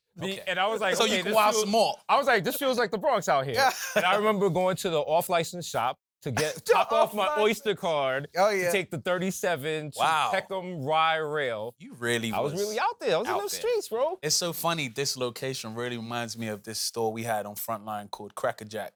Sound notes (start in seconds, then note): 3.6 laughs; 6.4 laughs